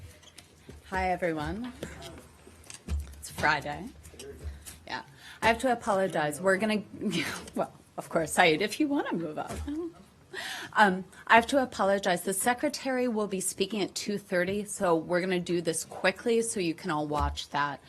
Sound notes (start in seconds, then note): 9.7 laughter